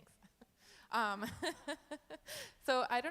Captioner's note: laughs